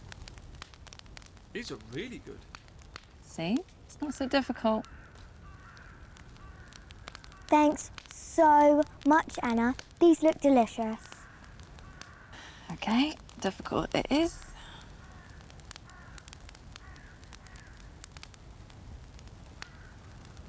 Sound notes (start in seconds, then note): 12.3 sighing; 16.8 birds squawking